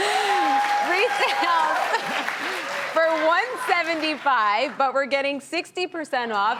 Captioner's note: audience cheers; laughs